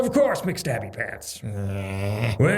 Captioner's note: grumbles